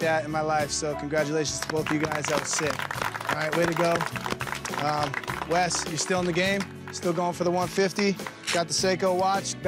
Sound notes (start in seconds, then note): 1.4 group clapping